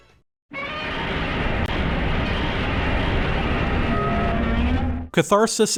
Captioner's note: Godzilla roar